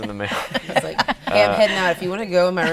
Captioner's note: laughing